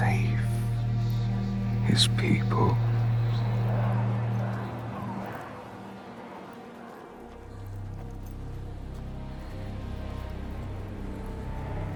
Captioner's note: wind blowing; dramatic music